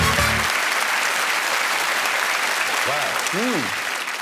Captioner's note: applause